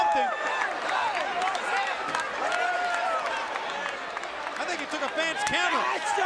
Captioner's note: crowd cheering